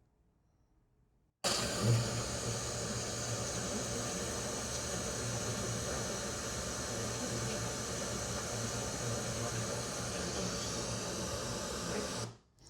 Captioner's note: pink noise